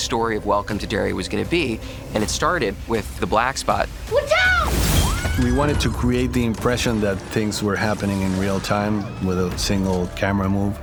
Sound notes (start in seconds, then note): 4.2 screaming